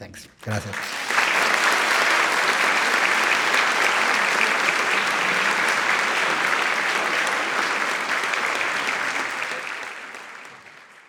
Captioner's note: attendees applauding